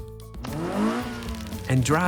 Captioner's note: engine revs